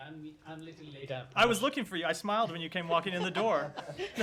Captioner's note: laughter